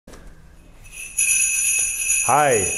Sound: bells ringing

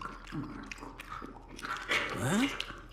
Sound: chewing sounds

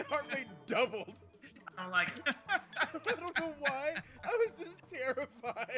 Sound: laugh

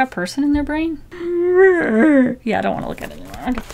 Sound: euurgh

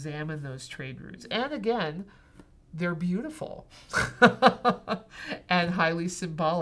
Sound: laughing

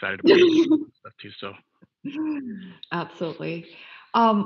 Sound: laughing

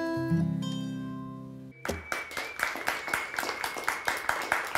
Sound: <i>applause</i>

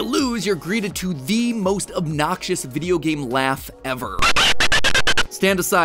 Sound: Noid.. laugh?

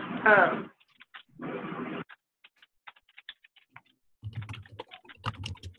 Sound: keyboard clacking

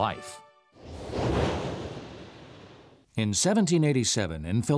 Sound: quick whooshing of air

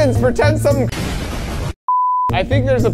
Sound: transition beeping; explosions booming

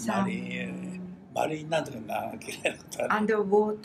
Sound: foreign language

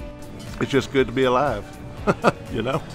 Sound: laughing

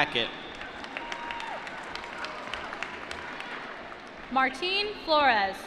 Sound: applause

